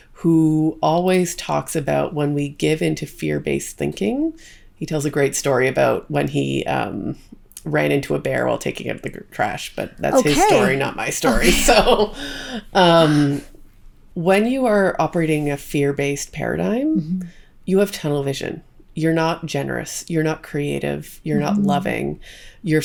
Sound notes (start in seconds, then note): 11.9 chuckles